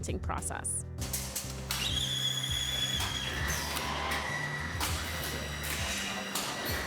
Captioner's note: whirring